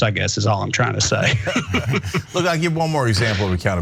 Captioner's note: laugh